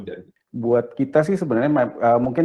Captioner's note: non-english speech